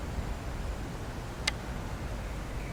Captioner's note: click